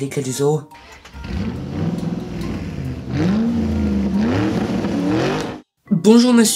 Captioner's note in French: Bruit de voiture